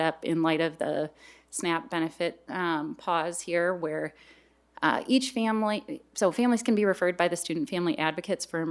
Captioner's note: none